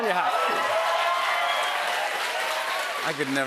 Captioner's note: cheers and applause